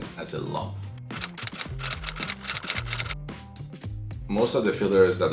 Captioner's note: keyboard keys clicking